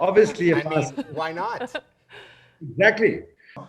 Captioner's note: chuckling